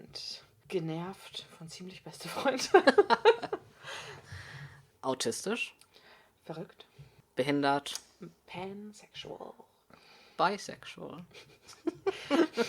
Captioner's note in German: beide lachen